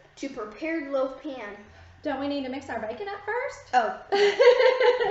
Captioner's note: laughing